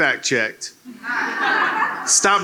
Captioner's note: laughter